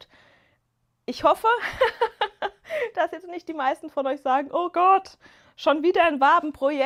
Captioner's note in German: gelächter